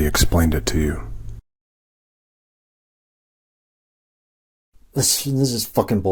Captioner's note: silence